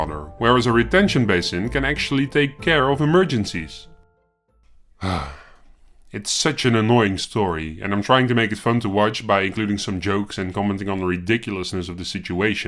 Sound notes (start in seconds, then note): 5.0 sigh